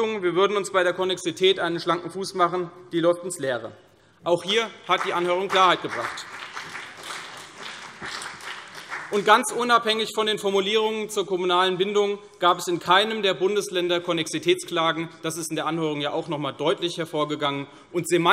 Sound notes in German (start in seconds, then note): 6.9 Vereinzelter Beifall CDU und BÜNDNIS 90/DIE GRÜNEN